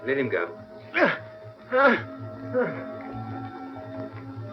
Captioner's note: gasping